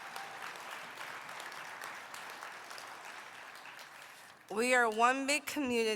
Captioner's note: applause